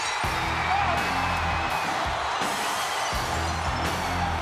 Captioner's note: crowd cheers